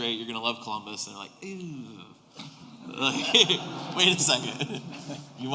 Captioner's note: laughter